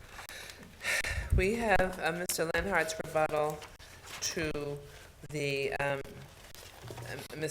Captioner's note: exhales